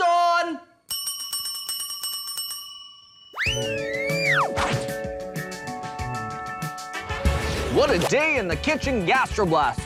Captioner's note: rings bell